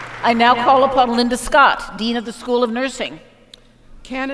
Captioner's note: applause